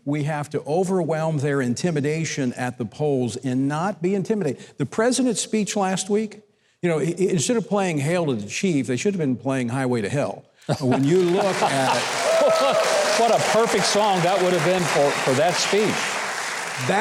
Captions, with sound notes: We have to overwhelm their intimidation at the polls, and not be intimidated. The President's speech last week? Instead of playing "Hail to the Chief", they should have been playing "Highway to Hell." When you look at it (applause) - What a perfect song that would've been for that speech.